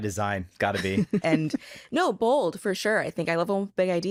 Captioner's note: chuckles